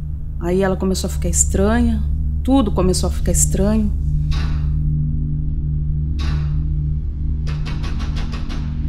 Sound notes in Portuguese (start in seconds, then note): 4.3 Batidas na porta